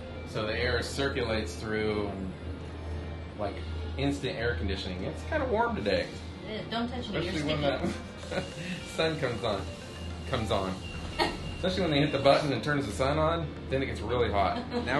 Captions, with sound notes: so the air circulates through like instant air conditioning. it's kind of warm today. yeah. Don't touch me you're sticky! [laughing] Especially when the sun comes on... comes on?! [laughing] Especially when they hit the button that turns the sun on... then it gets really hot!